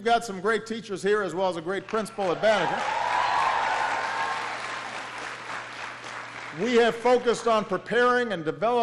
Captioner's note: applause